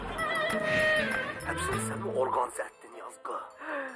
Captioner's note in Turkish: Televizyon ses